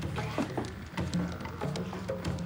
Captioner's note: whispers